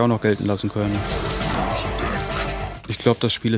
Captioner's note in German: Grollen, bedeutungsvolle Klänge